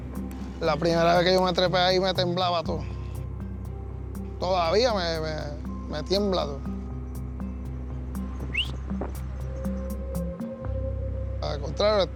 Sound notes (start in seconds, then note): 0.1 speaking Spanish; 8.2 whistles